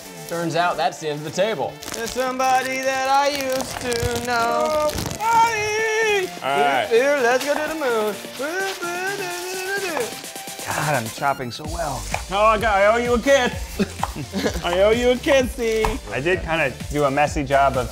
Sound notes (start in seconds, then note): 1.9 singing; 7.4 beat boxing